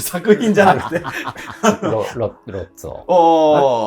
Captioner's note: laughing